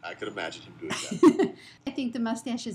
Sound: laughter

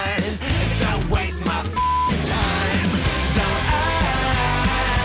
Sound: beep

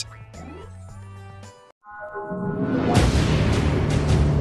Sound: mystical sounds

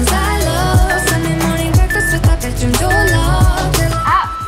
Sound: timer beeps

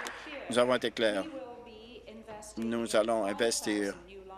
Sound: applause

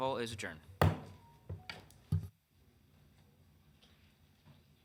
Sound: gavel slams

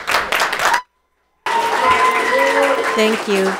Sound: audience applauds; people cheer

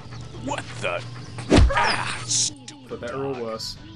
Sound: thwomp!

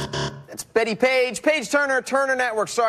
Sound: buzzer

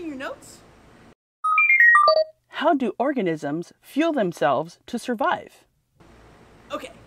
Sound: computer beeping

